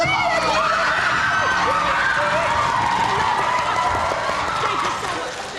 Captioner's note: cheering